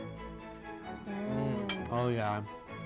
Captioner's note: uplifting music; all moan